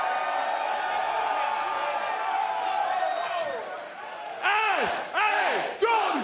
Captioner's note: cheers & applause